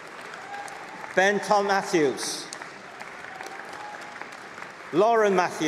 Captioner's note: applause